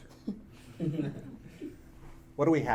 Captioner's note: audience laughing